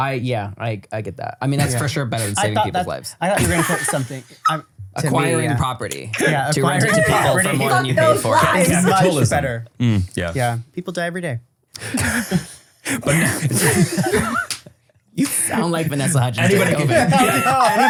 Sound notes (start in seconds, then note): 3.3 laugh; 6.1 laughing; 13.0 everybody laughs